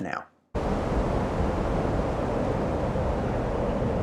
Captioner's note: whooshing